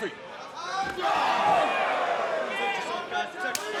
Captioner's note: crowd exclaiming